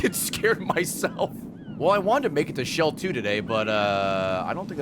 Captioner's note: laughs